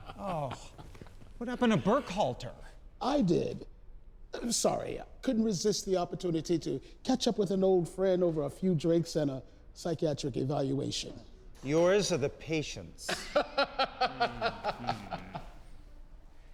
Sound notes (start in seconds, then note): 0.0 Emmanuel laughs; 13.1 Emmanuel laughs